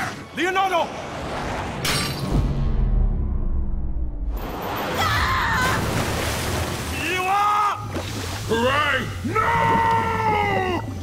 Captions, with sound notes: Leonardo! [screaming] Miwa! Karai, nooo!